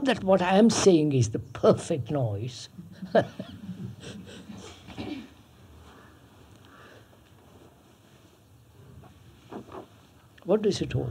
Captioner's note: laughs